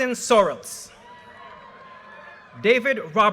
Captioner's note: audience cheers and applause